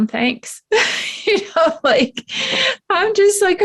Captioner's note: laughs